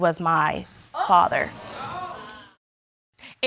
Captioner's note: audience exclaiming